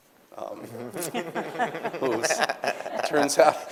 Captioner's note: everyone laughing